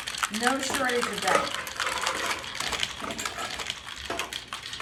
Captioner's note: ice shaking